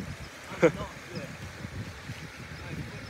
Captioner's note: water sounds